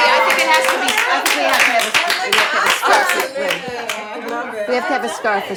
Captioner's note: all applauding; all talking excitedly